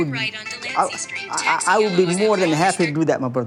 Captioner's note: phone ringing